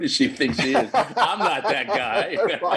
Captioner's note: laughing